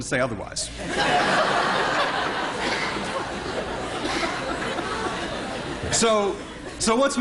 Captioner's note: laughter